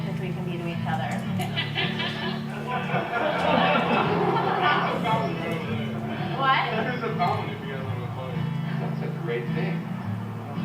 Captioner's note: laughter